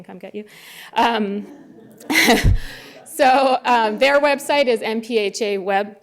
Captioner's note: laughter